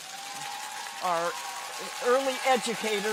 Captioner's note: audience cheers; clappers clacking